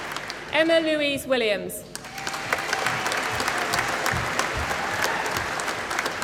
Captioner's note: applause